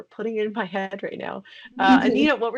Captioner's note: laughing